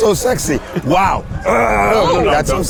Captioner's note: grunts